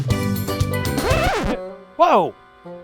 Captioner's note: record scratching